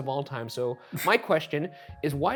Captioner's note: chuckling